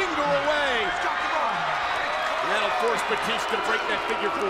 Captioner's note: applause